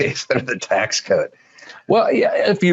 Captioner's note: laughs